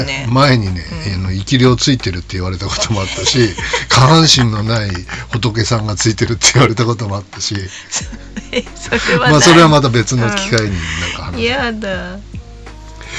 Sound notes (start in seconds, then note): 7.7 laughs